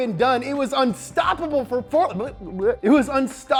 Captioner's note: stammers